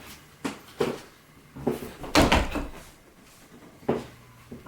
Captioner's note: stomping noises